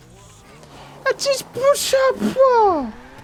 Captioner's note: speaking gibberish